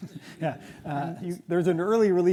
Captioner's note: audience laughs